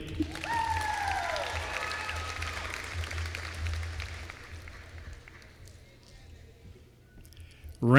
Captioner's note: applause